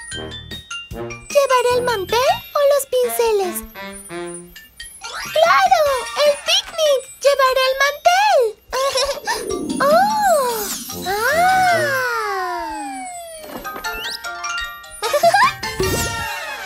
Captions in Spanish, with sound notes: ¿Llevaré el mantel o los pinceles? ¡Claro! ¡El pic nic! ¡Llevaré el mantel! (Risas) ¡Oh! ¡Ah! (Risas)